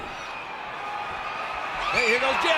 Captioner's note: audience cheering